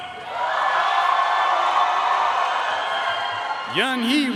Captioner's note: audience cheering and applauding